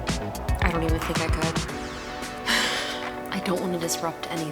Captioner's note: laughs